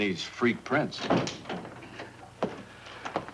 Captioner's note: door bangs open